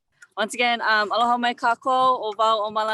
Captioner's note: speaking native language